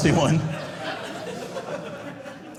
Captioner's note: audience laughing